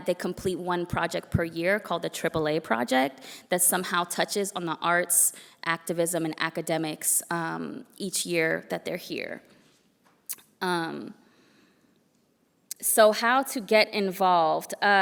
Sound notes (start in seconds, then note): none